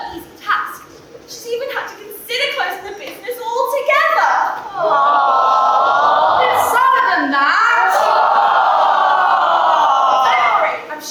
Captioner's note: audience aw; audience aw louder